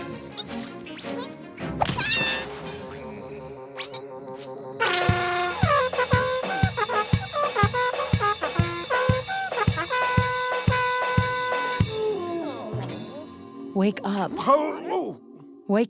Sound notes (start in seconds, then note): 1.9 screams; 3.4 crash; 4.8 trumpet and drum sounds